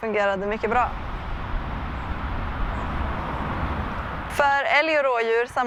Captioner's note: traffic noise